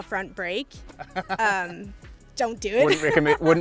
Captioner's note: laughing